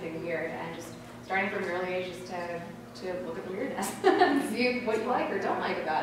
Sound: laughter

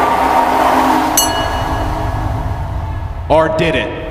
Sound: fans Cheering; bell rings

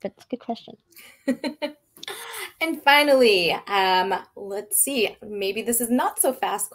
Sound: laughing

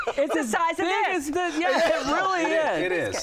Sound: laughter

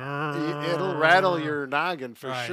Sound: vocalizing

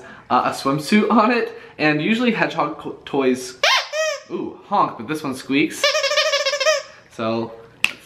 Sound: squeaking noise

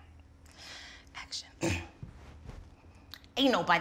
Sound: clears throat

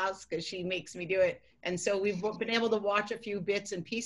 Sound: laughter

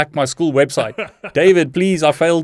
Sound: laughing

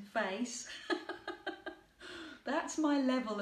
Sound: laughing

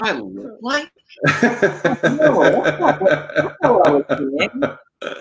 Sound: laughing

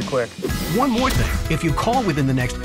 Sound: voiceover

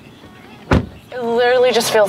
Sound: car door slams

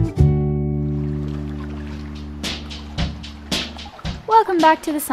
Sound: ocean waves splashing

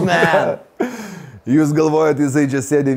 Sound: both chuckles

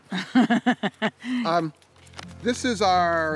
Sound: woman laughs

